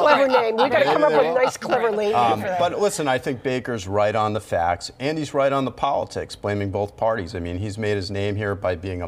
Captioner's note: laughter